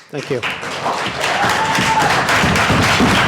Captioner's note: applause